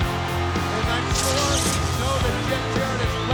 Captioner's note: crowd cheering